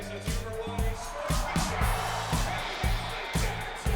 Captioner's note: audience cheering drowns out commentator